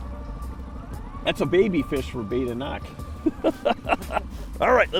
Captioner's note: laughs